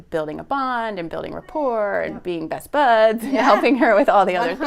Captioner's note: laughs